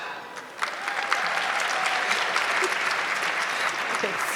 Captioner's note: audience clapping